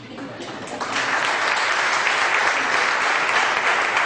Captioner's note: audience applause